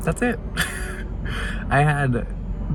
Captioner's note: laughs